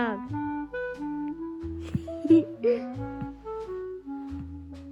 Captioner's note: giggles